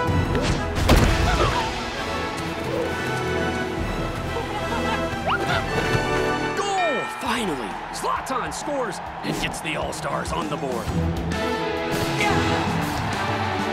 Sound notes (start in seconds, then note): 0.7 yelping; 4.6 slug mumbles